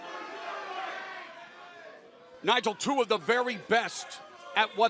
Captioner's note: fans chanting